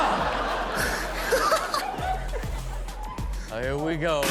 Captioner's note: Steelo and audience laughing